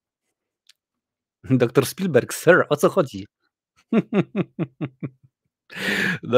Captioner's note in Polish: śmiech